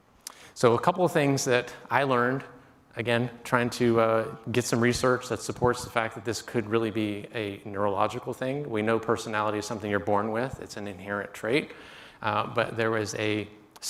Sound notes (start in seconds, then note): none